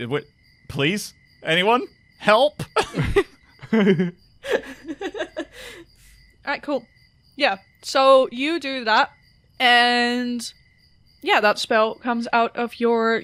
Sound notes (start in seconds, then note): 2.6 laughter